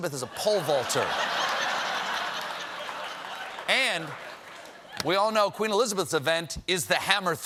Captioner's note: laughter